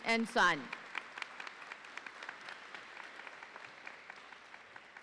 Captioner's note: audience applauding